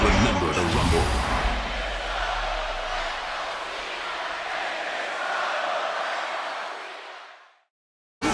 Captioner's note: crowd cheering